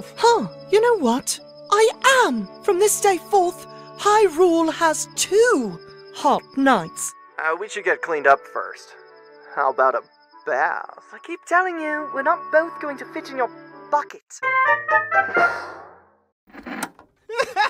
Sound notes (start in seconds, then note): 14.2 whimsical ending jingle; 16.4 TV turns off